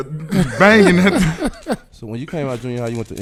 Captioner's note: laughing